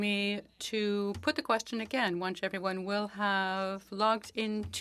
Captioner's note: speaking French